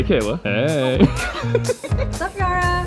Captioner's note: laughing